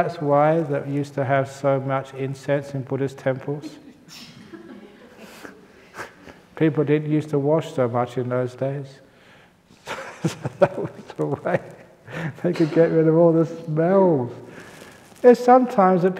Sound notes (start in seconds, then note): 9.8 laughs